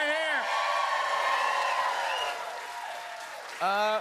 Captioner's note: cheers and applause